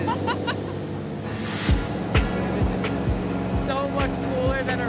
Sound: laughs

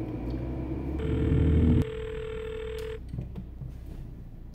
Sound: phone rings

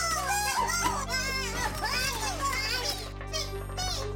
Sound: chattering; indistinct chattering

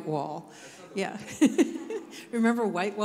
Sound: laughs

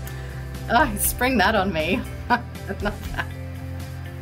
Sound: laughs

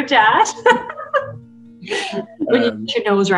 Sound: laughs

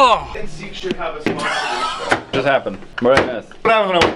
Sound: talking in background

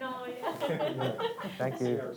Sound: laughs

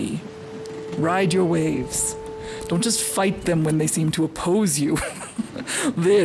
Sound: laugh

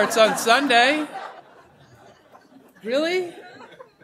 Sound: laughter

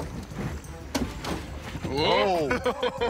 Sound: laughs

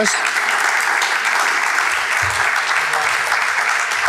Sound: audience clapping

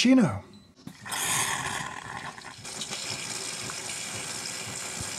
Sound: water hissing

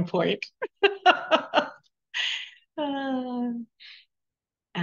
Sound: laughing

